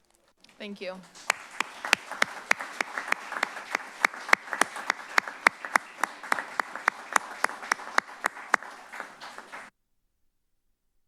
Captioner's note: applause